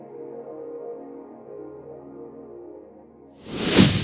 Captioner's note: whooshing